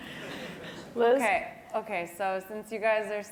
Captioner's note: laugh